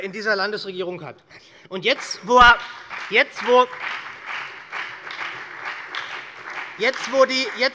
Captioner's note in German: Beifall bei Abgeordneten der SPD und bei der FDP